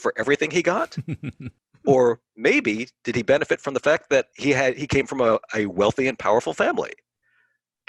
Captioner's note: laughs